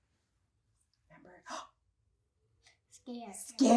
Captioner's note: gasps dramatically